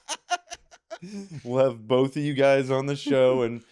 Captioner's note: laughing